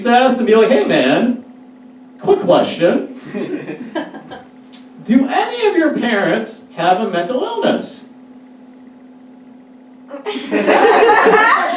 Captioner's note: audience Laughs